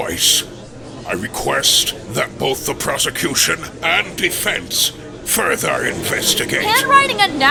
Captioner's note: gallery chattering